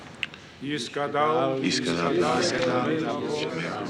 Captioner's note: reading Hebrew